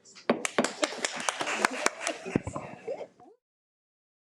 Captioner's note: attendees applaud